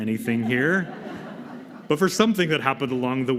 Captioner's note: laughter